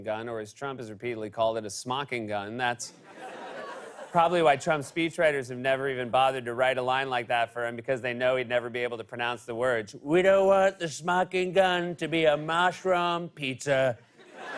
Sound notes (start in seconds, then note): 9.9 As Trump